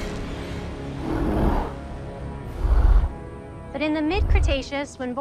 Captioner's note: T-Rex roaring